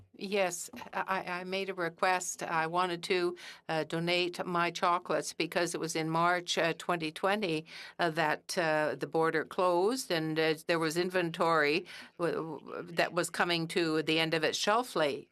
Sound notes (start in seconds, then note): 3.8 speaking French